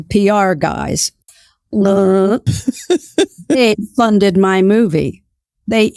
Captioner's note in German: lacht